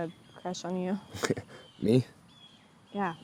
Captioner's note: David chuckles